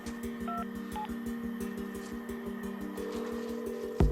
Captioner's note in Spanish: Sonido al marcar